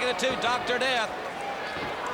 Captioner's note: crowd cheering